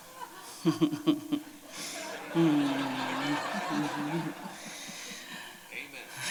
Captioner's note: laughter